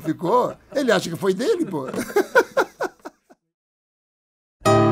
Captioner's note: laughs